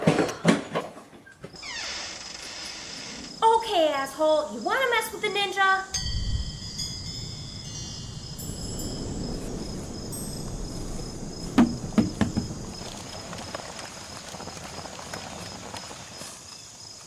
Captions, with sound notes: (Door creaks) Okay asshole! You want to mess with a ninja?! (Wind chimes ring) (Bouncing and rolling sound on floor) (Apple crackles)